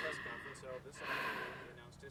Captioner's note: sighs